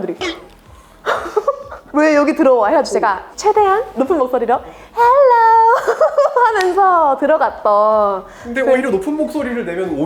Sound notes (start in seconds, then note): 5.3 laughs